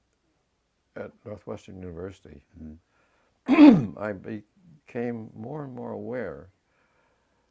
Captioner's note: cough